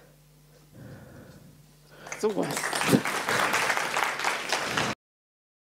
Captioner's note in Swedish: Applåder